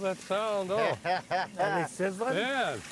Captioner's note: laughs